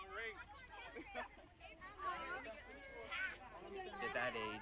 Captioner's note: mutters; children chattering